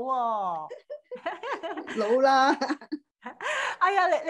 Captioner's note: Giggle